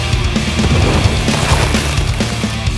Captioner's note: heavy rock music; large explosion; heavy rock music